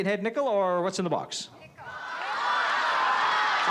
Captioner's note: crowd shouting